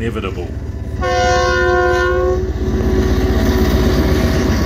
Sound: train horn

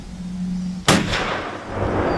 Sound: gunshot

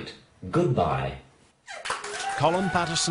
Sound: audience applause

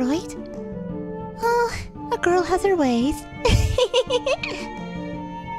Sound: giggle

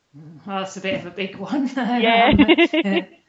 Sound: laughs

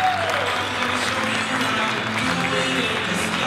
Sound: applause and cheering; applause

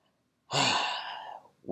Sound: sighs

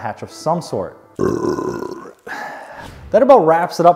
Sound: belching loudly

